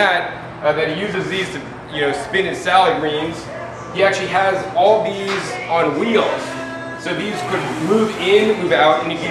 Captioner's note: washing machine